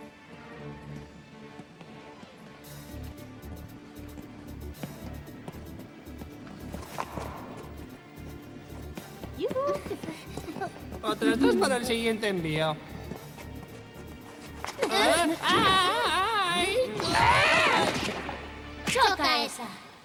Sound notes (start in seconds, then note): 10.0 gasps; 16.9 screams